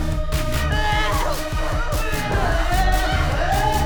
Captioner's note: all screaming